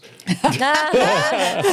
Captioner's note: laughing